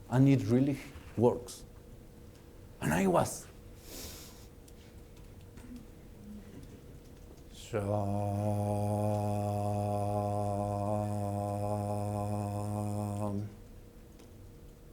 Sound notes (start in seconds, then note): 3.9 recites Mantra